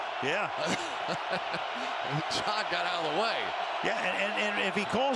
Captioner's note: chuckles